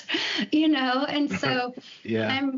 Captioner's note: laughs